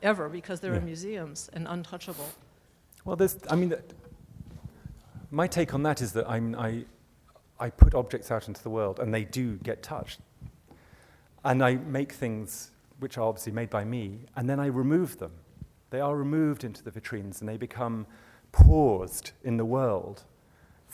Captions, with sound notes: ever, because they're in museums and untouchable. - [Voiceover] My take on that is that I put objects out into the world, and they do get touched. I make things, which are obviously made by me, and then I remove them. They are removed into the vitrines and they become paused in the world